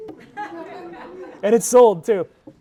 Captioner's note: audience laughing